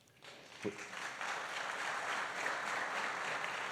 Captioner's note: applause